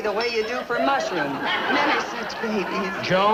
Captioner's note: audience laughing